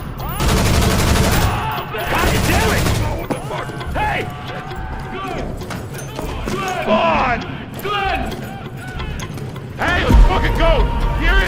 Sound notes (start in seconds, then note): 0.3 gunfire blasting; 5.6 soldiers yelling indistinctly